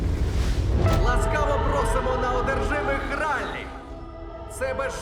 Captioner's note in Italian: uomo all'altoparlante